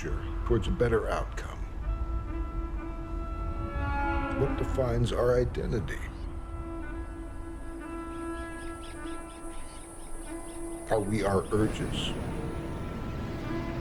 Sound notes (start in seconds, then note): 8.2 bird chatters